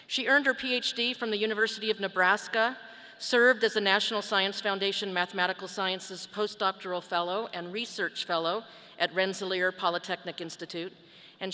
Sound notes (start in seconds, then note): none